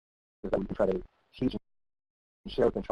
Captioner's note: audio cuts out; audio cuts out